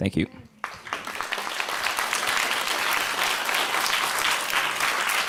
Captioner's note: audience applauding